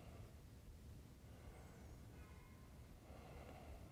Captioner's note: breathes deeply